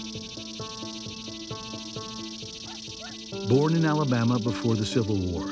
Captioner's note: cicadas chirping